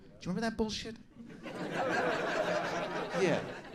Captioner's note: audience laughing